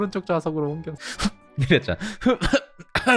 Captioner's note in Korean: 웃음의 눈물